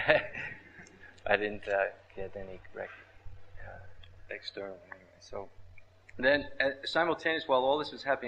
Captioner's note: laughs